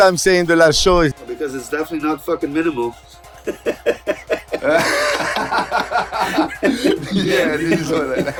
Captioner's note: laughter